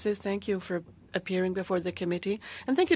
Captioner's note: speaking in French